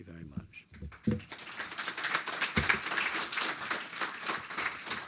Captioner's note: audience applauding